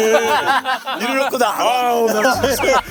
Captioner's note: scratching